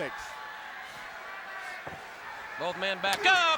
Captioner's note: crowd chatter